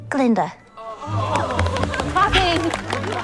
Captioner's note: cheers and gasps